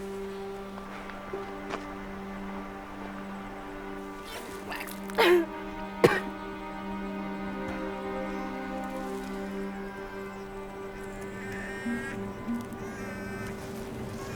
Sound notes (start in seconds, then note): 5.1 vomiting; 6.0 spitting; 9.8 baby crying